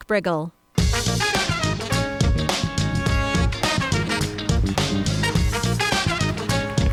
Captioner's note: upbeat music; audience applauds